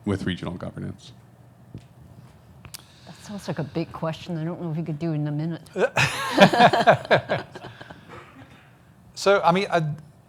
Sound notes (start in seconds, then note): 5.7 laughing